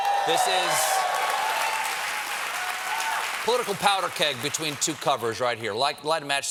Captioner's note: cheers and applause